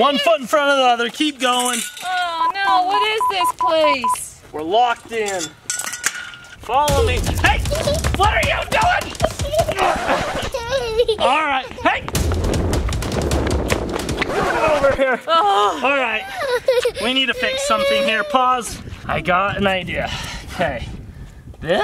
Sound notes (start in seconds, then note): 2.9 panel beeps; 6.8 upbeat drum music; 8.8 laughs; 10.0 record scratching; 15.0 record scratching; 15.4 mom sighs